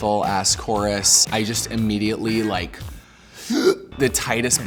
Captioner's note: tight inhale